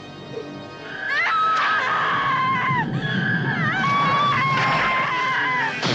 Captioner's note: Lisa screams; electricity crackles